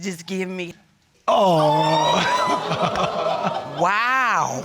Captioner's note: audience exclaiming